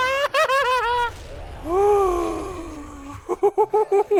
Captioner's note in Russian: вздыхает с облегчением